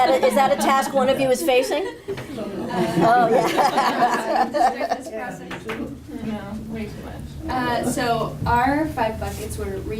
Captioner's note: laughter & audience chatter